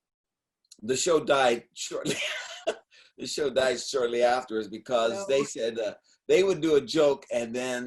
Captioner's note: laughing